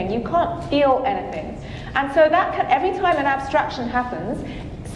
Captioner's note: none